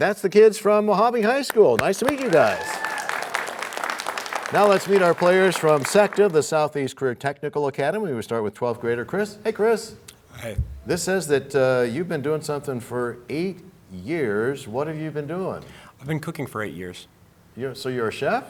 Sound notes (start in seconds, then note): 3.9 cheers and applause